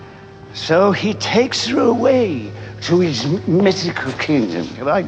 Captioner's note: stammers